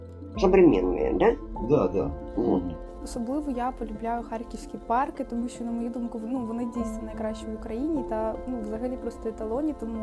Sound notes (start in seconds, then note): 1.8 interviewer speaking Ukrainian; 3.2 speaking Ukrainian